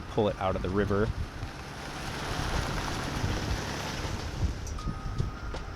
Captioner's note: tires crunching